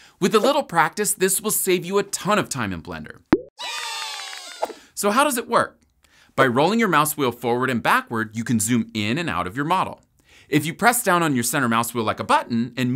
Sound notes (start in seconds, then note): 3.6 people cheering